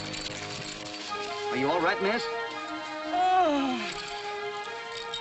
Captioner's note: she sighs loud